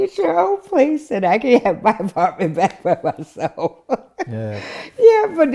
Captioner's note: laughing